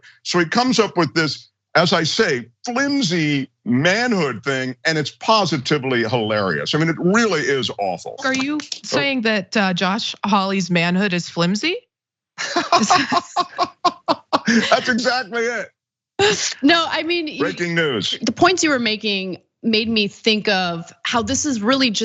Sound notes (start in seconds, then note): 12.4 laugh